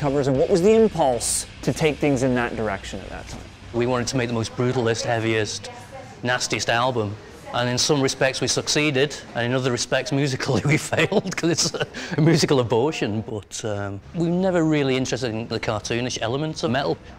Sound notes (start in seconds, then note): 10.5 laughs